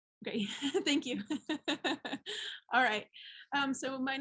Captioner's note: laughs